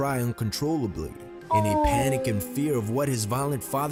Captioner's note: voice-over